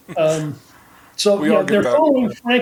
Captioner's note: chuckling